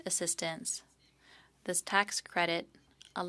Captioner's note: speaking French